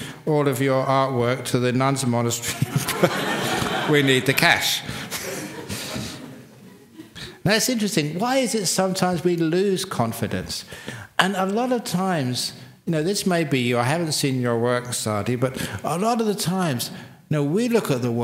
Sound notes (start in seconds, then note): 2.4 laughter; 6.5 laughs